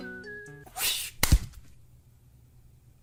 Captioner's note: vent SFX